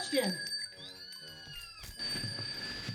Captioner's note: kittens crying